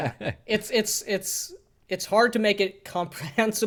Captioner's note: laughs